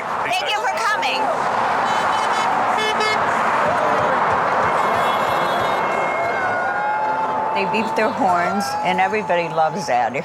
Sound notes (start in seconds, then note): 1.8 horns honking; 2.1 vehicles whirring